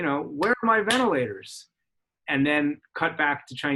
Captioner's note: clapping